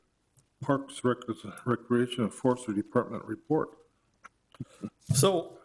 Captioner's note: laughs